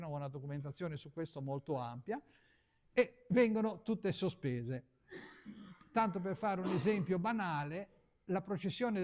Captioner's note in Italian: sbuffare